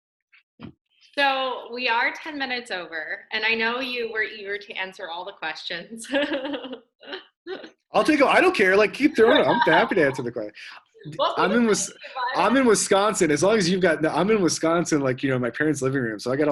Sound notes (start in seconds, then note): 5.8 laughs